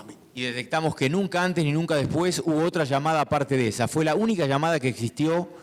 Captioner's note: speaking in foreign language